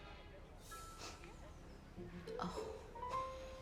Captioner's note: mom sniffing